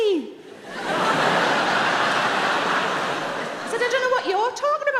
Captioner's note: audience laughing